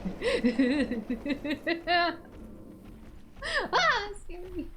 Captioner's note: laughter